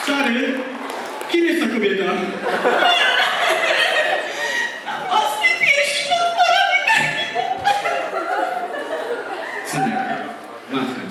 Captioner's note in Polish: Aplauz